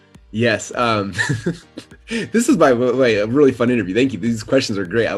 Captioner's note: laughs